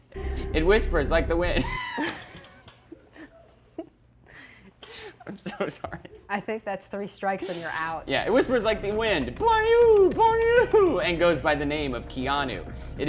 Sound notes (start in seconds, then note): 1.6 both laugh